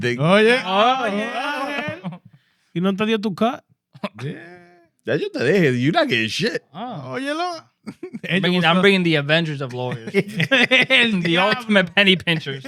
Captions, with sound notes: Oh yeah. Oh yeah, okay. You don't tell you how to cut. Yeah. You not getting shit. Oh, you know. I'm bringing the Avengers of lawyers. (Laughing) The ultimate penny pinchers.